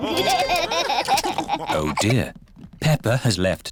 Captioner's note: laughter